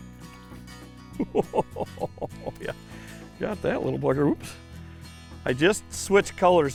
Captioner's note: laughing